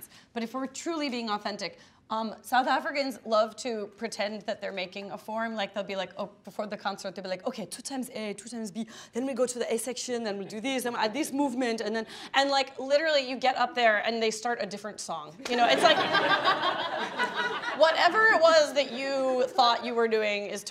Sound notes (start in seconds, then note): 15.6 laughing